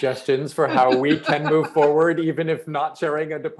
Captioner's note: laughing